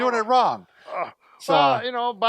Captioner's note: groaning